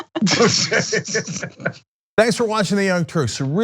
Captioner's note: laugh